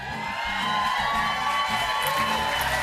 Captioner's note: cheers and applause